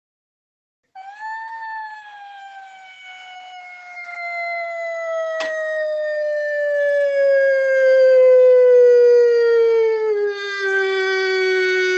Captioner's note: mmmmmmmmmm